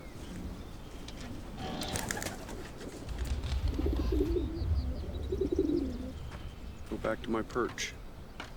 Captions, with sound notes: (wings fluttering) (pigeons cooing) Go back to my perch.